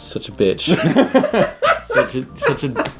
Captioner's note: laughing